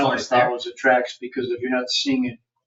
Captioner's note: people chattering